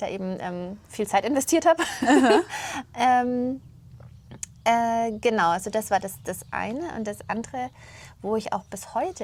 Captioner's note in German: gelächter